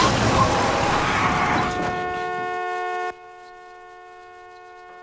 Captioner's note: tires screeching; cars crashing; horn blaring